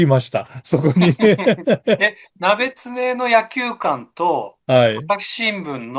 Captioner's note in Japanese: 笑い